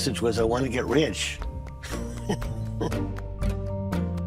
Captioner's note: laughs